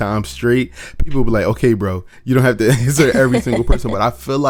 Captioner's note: laughs